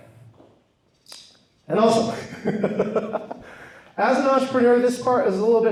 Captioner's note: laughs